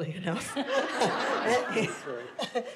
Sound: audience laughs

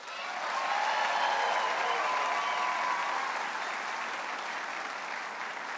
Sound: audience cheers and applauds

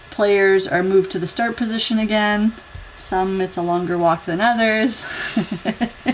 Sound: laugh

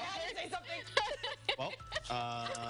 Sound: laughter

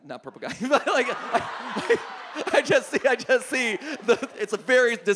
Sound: audience laughs

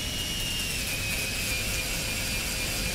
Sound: drilling noises

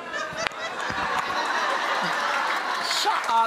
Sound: audience laughing

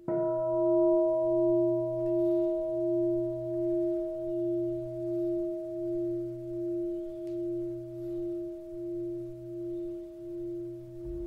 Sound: bell sounds

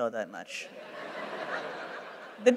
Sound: laughter

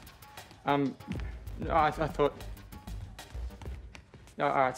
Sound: stammers

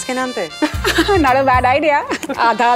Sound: both laugh

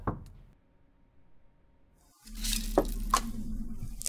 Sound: knock Knock Knock

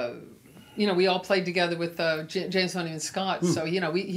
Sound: mutters

